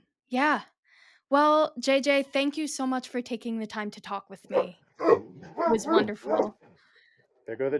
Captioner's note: dogs barking